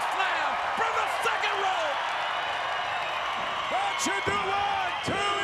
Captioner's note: crowd cheering